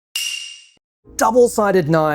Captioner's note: bell dings